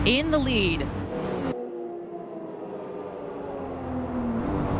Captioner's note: engines roaring